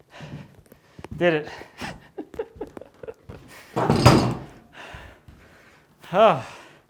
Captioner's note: laughing